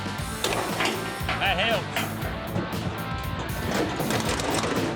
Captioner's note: clanking sound